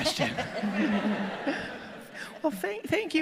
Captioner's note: audience laughing